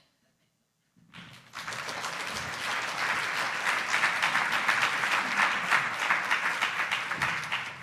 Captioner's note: applause